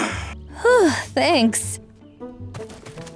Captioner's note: sighs in relief; Zaid grunting